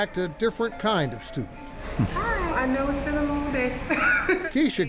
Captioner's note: laughs